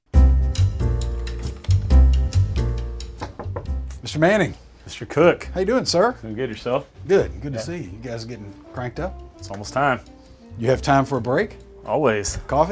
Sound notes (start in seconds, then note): 0.2 jazzy music; 3.2 knock on door